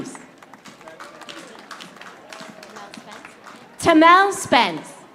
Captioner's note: audience applauding